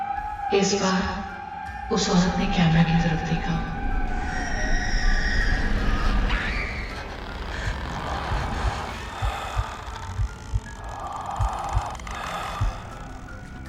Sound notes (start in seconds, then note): 4.0 women Screaming; 7.5 heartbeat and breathing